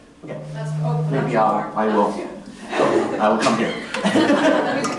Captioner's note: laughter